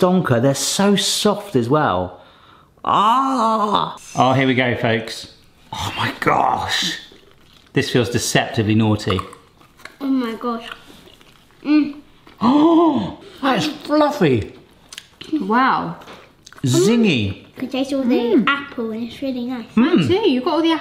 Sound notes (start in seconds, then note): 2.8 groans; 12.3 gasps